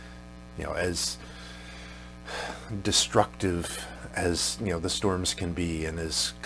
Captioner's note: exhales